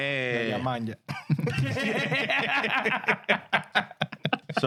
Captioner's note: laughing